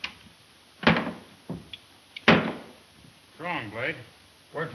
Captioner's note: headphones bang